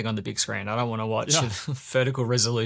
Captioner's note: laughs